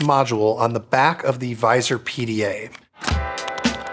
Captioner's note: module clicks; bright music